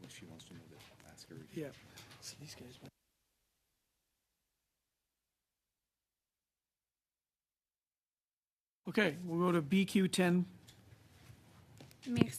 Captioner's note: speaking French